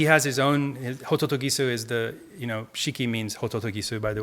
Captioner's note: speaking in Japanese